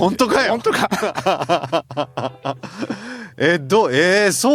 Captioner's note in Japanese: 笑い